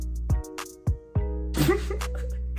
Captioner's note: laughs